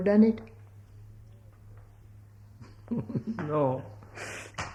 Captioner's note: laughs